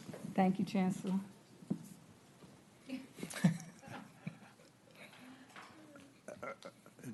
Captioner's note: laughter